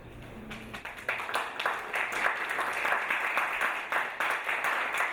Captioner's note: audience applauding